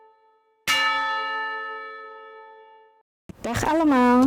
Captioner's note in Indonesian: Dentang lonceng